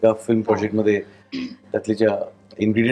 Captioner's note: clears throat